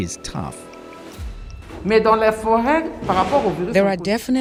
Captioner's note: speaking french